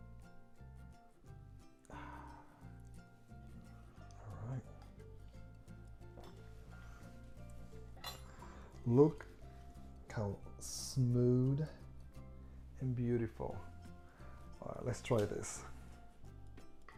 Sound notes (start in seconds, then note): 1.8 sighing; 16.7 cheerful music